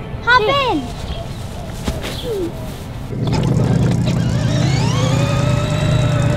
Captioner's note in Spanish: motor ruge